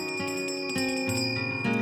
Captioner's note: ringing